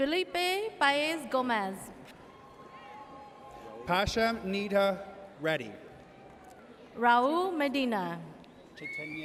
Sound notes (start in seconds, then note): 2.2 audience cheers